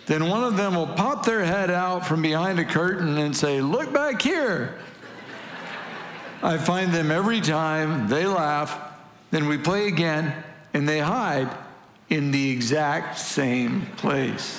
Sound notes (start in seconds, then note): 4.7 congregation laughing; 14.3 congregation laughing